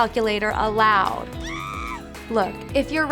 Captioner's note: background screaming